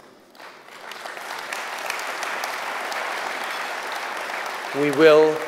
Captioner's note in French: Applaudissements